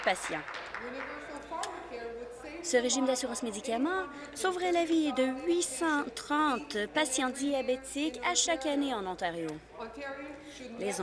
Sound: applause

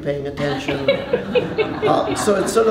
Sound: laughter

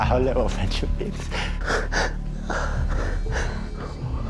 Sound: cries

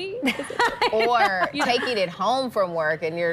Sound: laughter

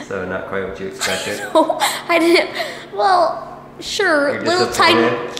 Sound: laughs

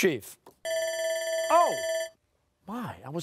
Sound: timer sounding

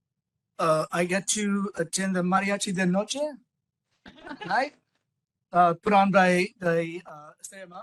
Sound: laughing

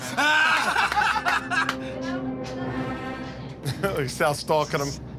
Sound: laughter

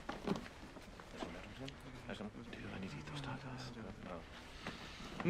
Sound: TROY and ABED mumble

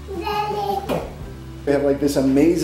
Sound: baby babbling

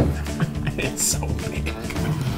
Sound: laughs

